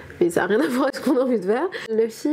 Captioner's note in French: rires